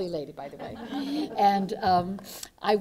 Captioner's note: laughter